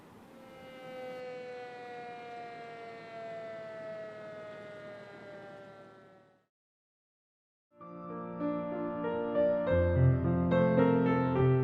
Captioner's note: firetruck Siren